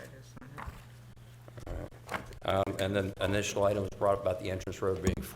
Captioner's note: board chatting quietly